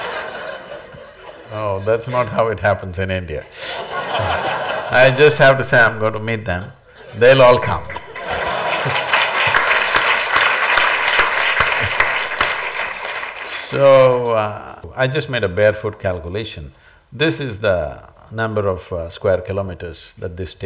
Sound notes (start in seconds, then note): 0.0 laughter; 0.0 laughs; 3.7 laughter; 12.7 applause